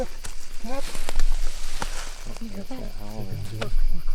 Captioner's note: chatter